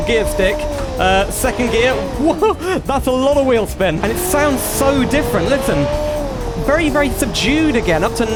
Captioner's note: engine Noise